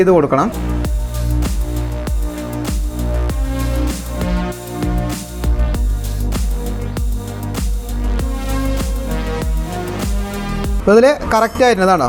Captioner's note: tightening of valve